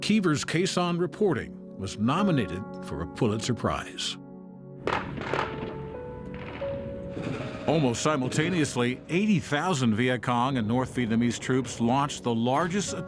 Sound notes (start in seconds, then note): 6.3 gunfire popping